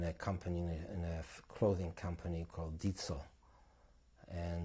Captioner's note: non-english